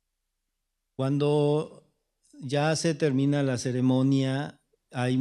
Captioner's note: speaking spanish